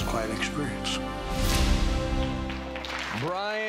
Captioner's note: applauding